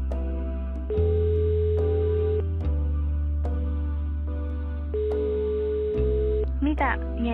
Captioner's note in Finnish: Puhelin hälyyttää